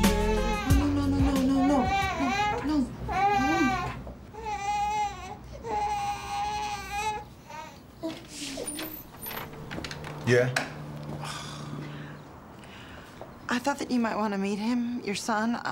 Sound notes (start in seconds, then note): 0.0 baby crying intensely; 11.0 groaning lightly